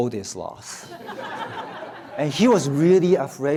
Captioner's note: audience laughs